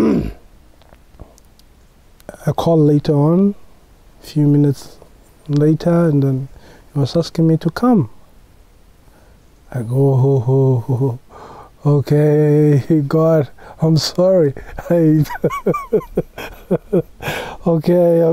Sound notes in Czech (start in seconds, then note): 14.6 smích